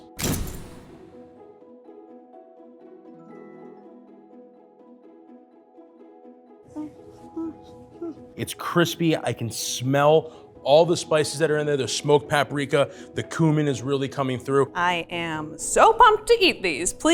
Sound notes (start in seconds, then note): 0.2 camera flashes; 1.6 gentle music; 6.8 humming to self